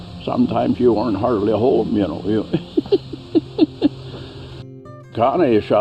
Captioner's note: laughs